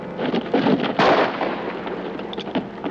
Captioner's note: gunshot